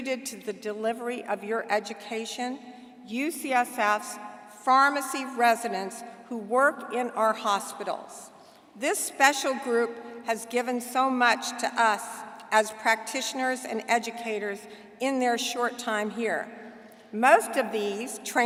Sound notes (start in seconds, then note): none